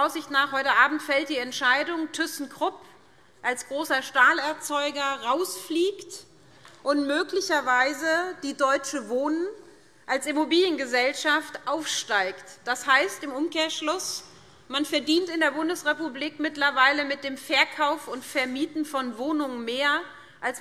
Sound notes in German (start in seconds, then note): none